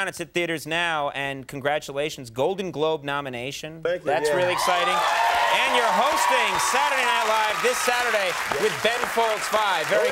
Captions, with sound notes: it's in theaters now and congratulations, Golden Globe nomination. Thank you. That's really exciting. (audience cheering) And you're hosting Saturday Night Live this Saturday with Ben Folds Five.